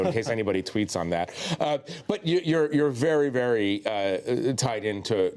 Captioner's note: laughter